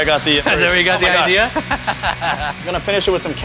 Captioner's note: laughs